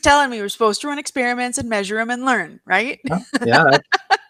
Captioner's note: laughs